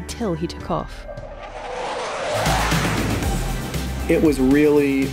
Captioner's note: music playing and sound of plane taking off